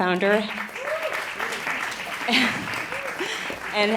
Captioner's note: applause